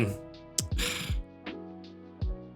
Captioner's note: sighs